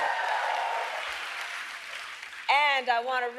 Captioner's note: applause